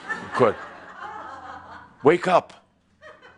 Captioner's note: some chuckles